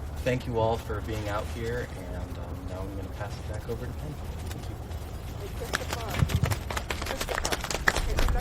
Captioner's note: audience clapping